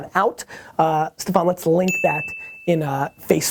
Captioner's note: tinkling